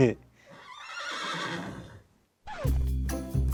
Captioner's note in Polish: rżenie konia